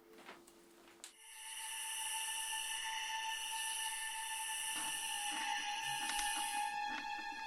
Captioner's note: crickets chirp; dark music; chair creaks rhythmically